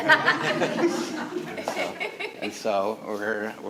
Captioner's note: all laughing